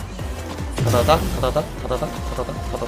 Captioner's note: random noises to emphasize the timing of the inputs